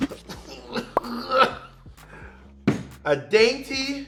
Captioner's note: grunts